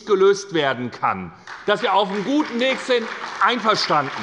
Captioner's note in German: Beifall bei der SPD